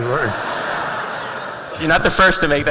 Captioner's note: laughter